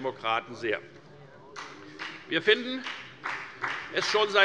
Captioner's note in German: Beifall bei der FDP